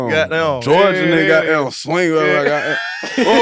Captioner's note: Jay and Ahrii laugh